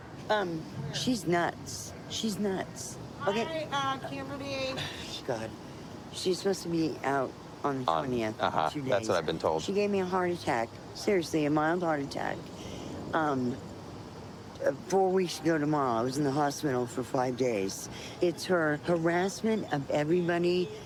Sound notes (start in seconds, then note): 3.2 scoffs